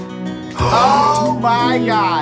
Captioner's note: women gasp